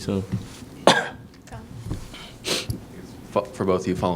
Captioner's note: cough